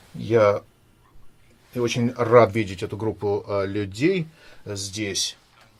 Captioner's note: speaking in foreign language